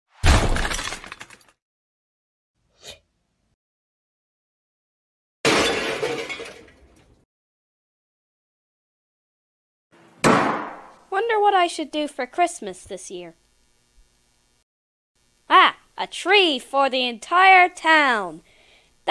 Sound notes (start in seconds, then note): 0.2 crash; 5.5 crash; 10.1 door slam